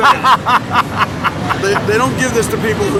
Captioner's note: laughing